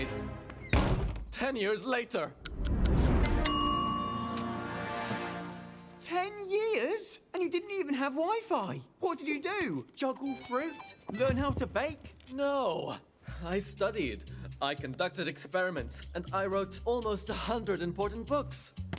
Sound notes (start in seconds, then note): 0.6 door slams; 3.4 ding!